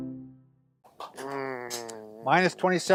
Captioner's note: groans